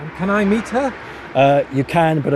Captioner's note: voiceover